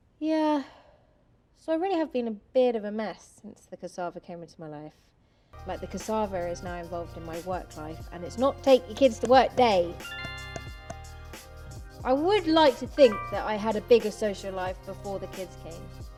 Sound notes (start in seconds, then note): 10.0 notification sound; 13.0 notification sound